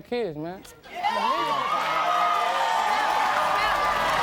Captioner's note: audience cheers